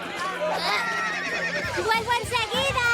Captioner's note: horse whinny